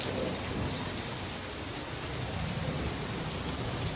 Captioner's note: thunder